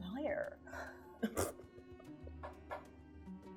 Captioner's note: laughing